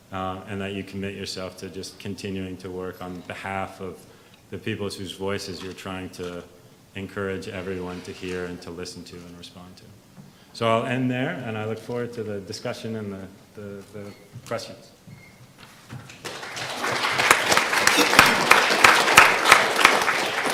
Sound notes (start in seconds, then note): 16.1 audience applause